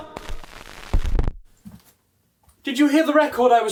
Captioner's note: record scratching